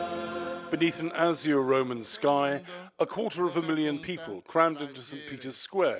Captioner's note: voice-over